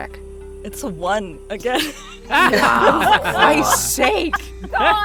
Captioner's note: laughs